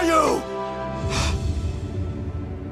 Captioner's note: gasp